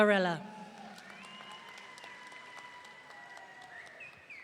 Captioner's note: audience cheering